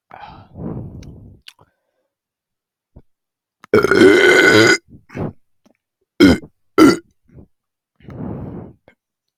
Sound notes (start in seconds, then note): 1.8 burp 5, 6 and 7😬😬😬🤭🤭🤑🤑👍👍🦉🦉